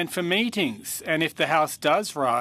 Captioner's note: speaking French